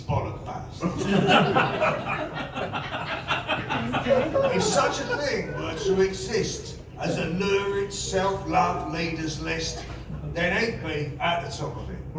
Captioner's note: laughter